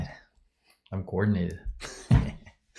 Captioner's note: laughs